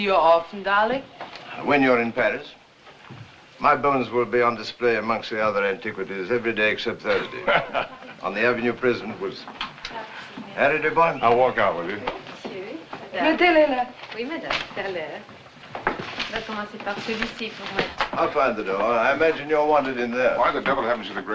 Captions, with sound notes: - Does that mean we'll see you often, darling? - When you're in Paris. My bones will be on display amongst the other antiquities every day except Thursday... - [ Laughs ] - on the Avenue President Wilson. - Harry, dear boy. - I'll walk out with you. [ French ] I'll find the door. I imagine you're wanted in there.